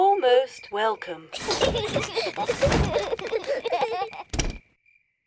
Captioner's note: children laugh